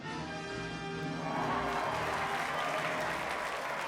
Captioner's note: applause